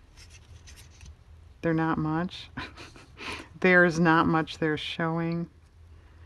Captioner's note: laughs